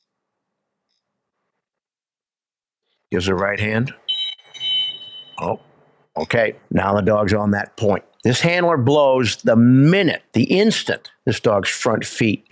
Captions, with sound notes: Gives a right hand. [WHISTLE BLOWS TWICE] Oh, okay. Now the dog’s on that point. This handler blows the minute, the instant, this dog's front feet